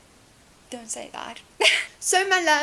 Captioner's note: laughs